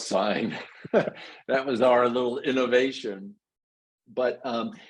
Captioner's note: laugh